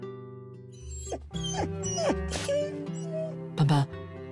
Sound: whine

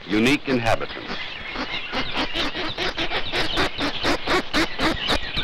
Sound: nature sounds

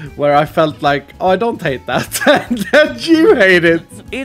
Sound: laughs

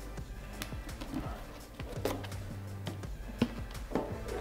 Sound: tapping sounds

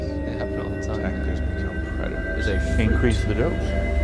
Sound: murmuring

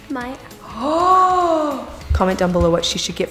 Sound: gasps

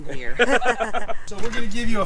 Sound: laughs

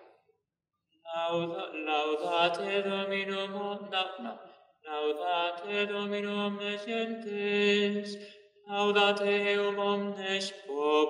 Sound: chant

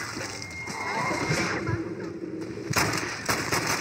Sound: fires in several quick shots

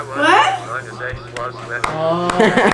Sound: laughter

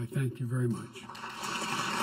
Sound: applause

